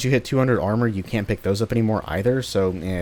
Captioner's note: none